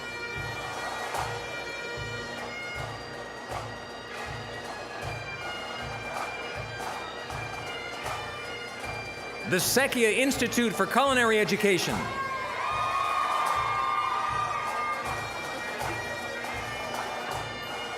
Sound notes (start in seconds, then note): 0.0 bagpipe music; 12.4 applause, cheering; 12.4 bagpipe music